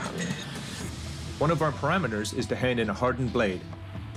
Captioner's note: metal scraping lightly